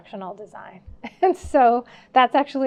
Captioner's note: laughing